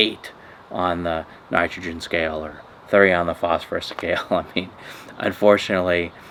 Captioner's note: laughing